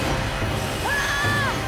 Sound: screaming

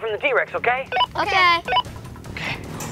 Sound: walkie-talkie beeps

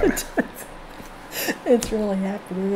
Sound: laughing

